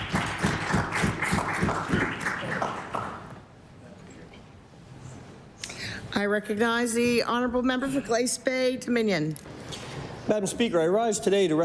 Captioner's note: applause